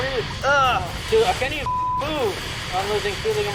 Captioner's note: beep